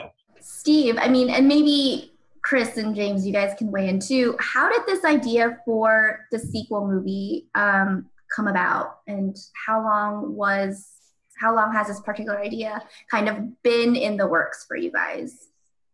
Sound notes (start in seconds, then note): none